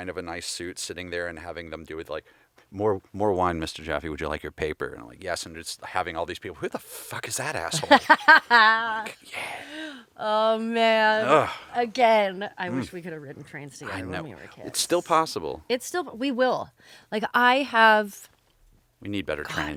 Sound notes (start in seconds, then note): 7.6 laughing